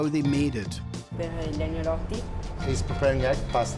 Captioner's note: speaking Italian